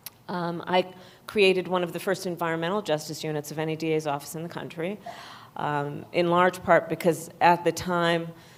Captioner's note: none